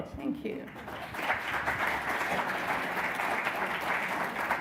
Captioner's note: audience applause